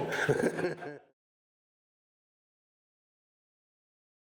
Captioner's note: laughing